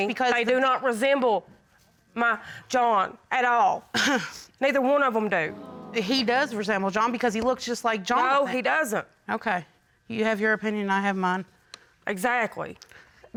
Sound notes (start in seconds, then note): 4.0 scoffs